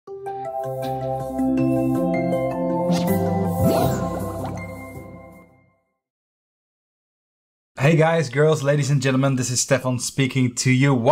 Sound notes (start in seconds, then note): 0.1 soft music; 3.5 swooshing sound